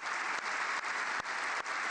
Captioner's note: applause